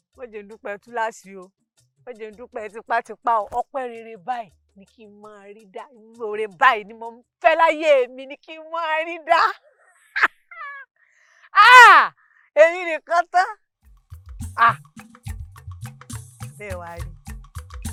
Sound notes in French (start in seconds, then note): 10.5 Rires